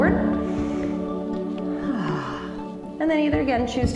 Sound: exhale

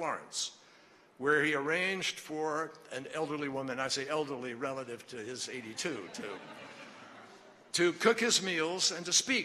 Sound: laughter

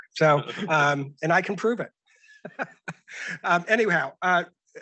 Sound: chuckles

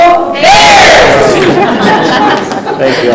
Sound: laughing

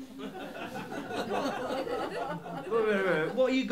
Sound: laughter

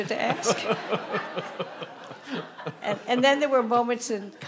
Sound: audience laughing

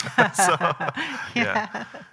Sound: both laughing

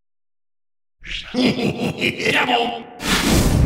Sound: chuckles evilly

